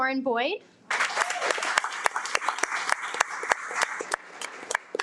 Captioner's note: audience applauding